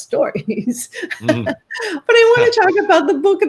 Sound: laughing

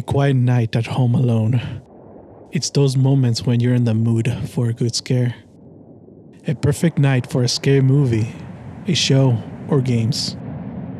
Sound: sigh

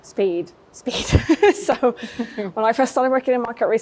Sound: chuckling

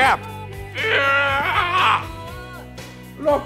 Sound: bellows

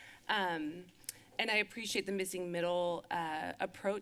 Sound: lips smack

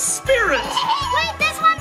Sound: giggles

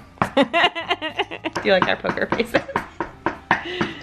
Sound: laughs

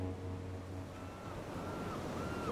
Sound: seagulls squawk

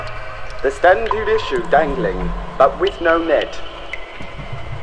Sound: in bastardized South African accent

